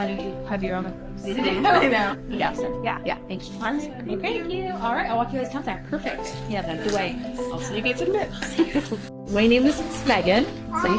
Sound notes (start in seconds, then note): 1.7 laughs; 8.3 laughs